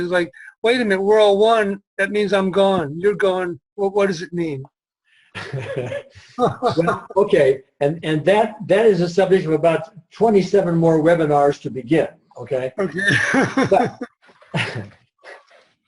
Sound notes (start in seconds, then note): 5.3 laughs; 12.8 laughs